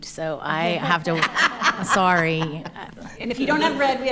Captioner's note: laughing